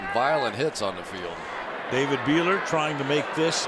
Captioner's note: cheering